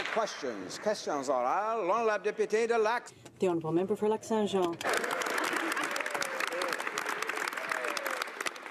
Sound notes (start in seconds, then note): 0.0 applause